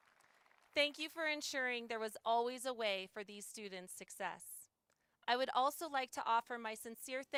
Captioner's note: applause